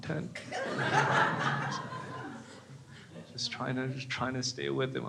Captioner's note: crowd laughs